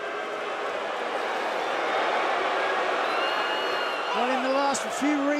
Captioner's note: crowd cheering